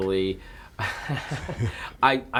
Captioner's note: laughing